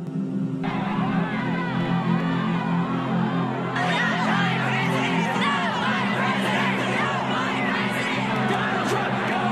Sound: shouting

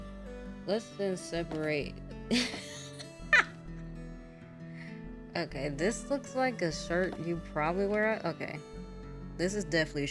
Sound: laughs

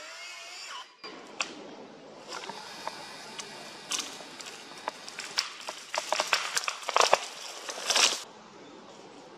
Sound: camera zooming out, wood cracking, tree falling down

